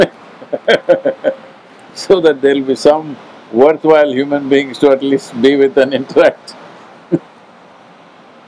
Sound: laughs; laughs

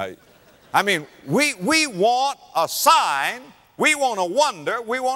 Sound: audience laughter

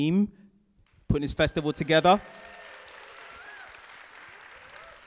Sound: audience cheer

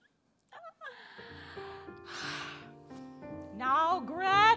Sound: witch exhaling

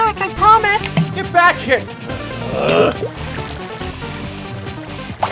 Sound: growls

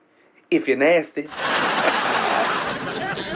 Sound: laughs

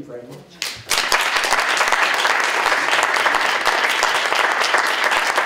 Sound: applause

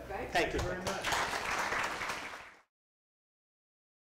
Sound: applause

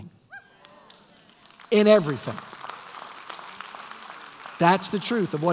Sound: applause

